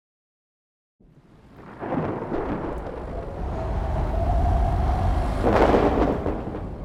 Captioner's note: wind and thunder